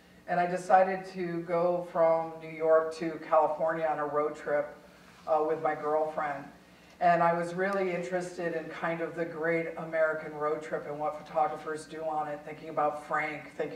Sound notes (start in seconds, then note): none